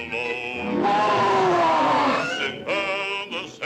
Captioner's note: lions roar